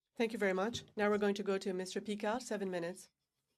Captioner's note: speaking in french